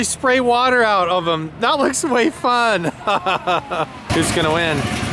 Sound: laughs

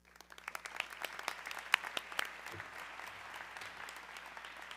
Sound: audience clapping

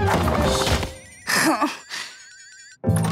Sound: groaning

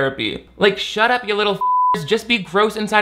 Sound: beep

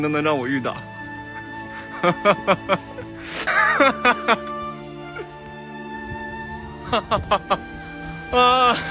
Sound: painfully laughing

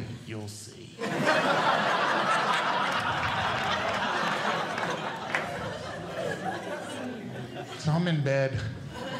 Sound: audience Laughing

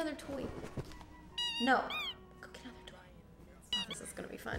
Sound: squeaking; squeaking

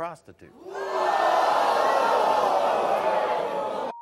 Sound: audience gasps

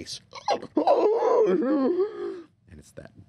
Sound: gurgling

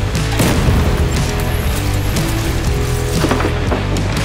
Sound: concrete cracking

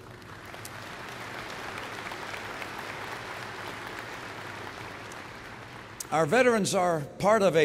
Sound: applause

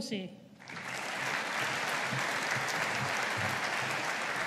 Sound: audience applauding

